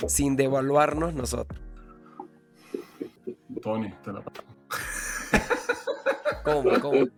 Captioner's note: laughs